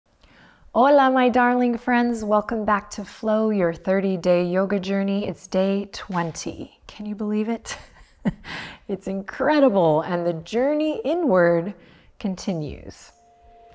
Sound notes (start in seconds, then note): 7.8 chuckles